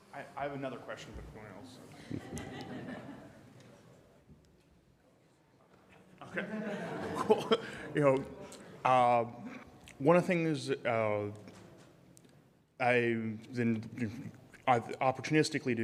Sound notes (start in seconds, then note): 4.0 audience laughing